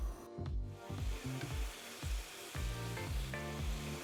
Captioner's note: meat simmering